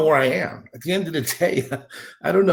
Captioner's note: chuckling